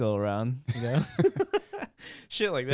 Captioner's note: laughing